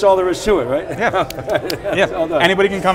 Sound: hands slapping

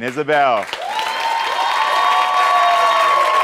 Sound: audience cheers

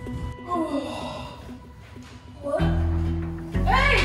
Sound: yawns

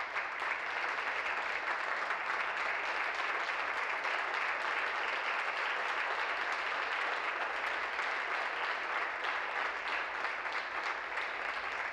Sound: applause

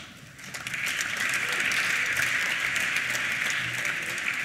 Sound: applause

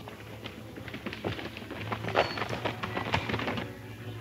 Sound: horse hoof beats

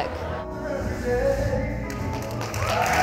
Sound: cheering and applause

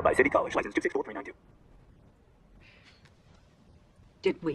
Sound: silence

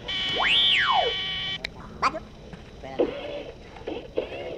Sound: beep Whistle

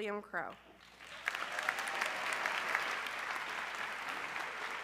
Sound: audience clapping

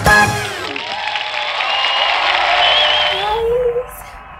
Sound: applause

